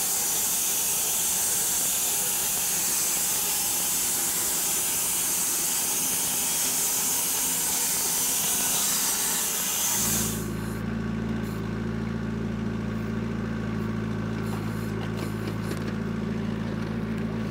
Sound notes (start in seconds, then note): 0.3 machine sawing; 11.3 engine idling